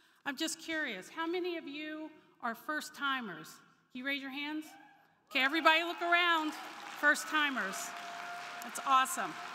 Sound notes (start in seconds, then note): 5.4 crowd cheering; 5.5 crowd clapping